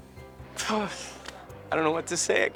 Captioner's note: sighs